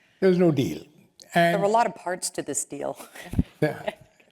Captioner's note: laugh